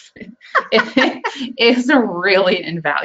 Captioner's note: laughing